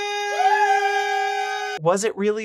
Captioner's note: cheering